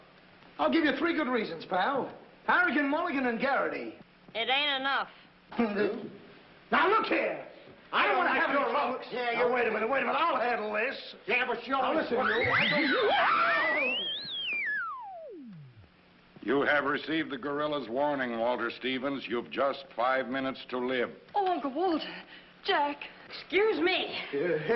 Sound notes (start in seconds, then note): 8.1 all yelling; 13.9 whooshing noise